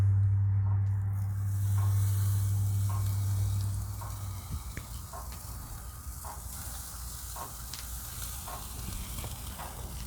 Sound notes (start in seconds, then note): 1.0 sizzling like a boss